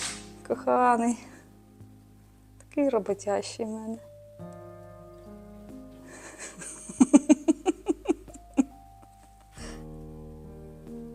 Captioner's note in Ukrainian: сміх